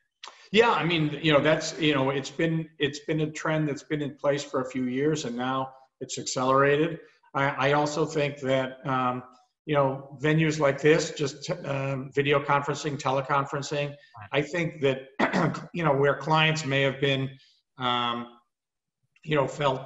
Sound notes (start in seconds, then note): 15.2 cough